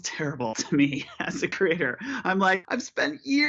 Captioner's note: laughter